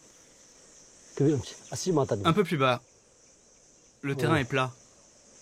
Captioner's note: dzongkha spoken audio